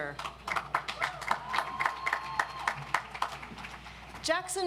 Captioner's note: audience applauds